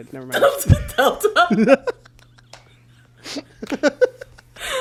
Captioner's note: both laugh